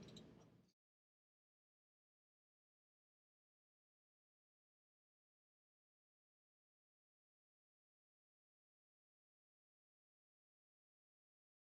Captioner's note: silence